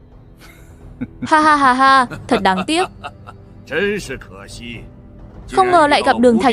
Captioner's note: laughter